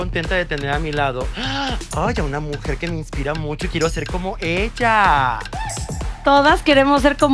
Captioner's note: girly gasp